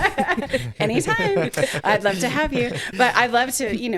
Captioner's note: laughing